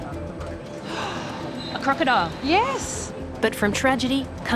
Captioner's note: gasps